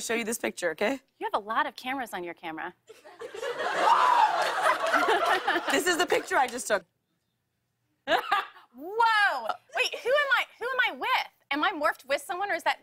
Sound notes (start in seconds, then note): 2.9 laughter; 3.8 man whoos